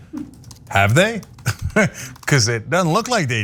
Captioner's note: laugh